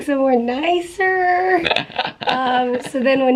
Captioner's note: chuckling